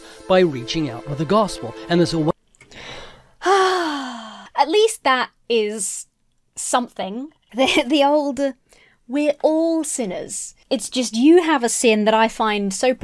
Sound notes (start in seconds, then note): 3.3 sighing